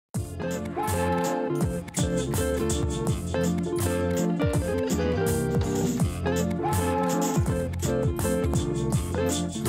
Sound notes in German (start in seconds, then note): 6.6 Zug pfeift